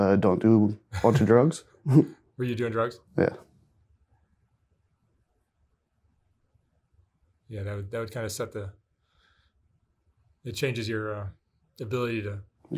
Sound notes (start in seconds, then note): 1.8 both chuckling